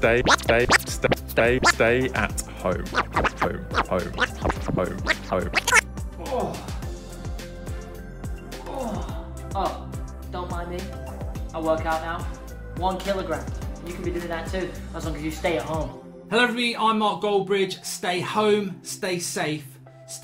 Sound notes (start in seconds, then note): 0.0 record scratching; 4.6 records scratching; 6.5 groans